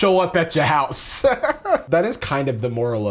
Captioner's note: chuckles